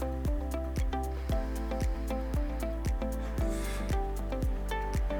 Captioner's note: inhales; upbeat music